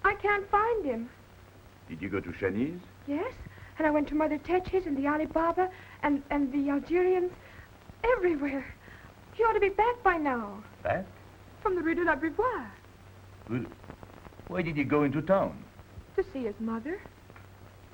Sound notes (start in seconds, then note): 11.7 Aicha speaks in foreign language